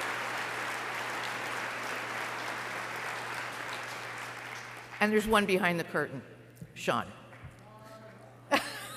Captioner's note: applause